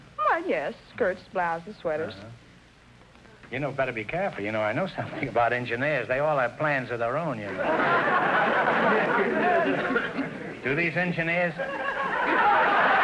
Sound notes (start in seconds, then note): 7.5 audience laughter